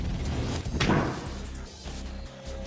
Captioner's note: thuds